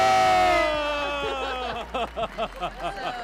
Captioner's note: applause and cheers